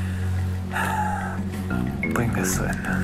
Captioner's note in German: Seufzen